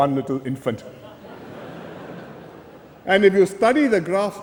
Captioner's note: laughter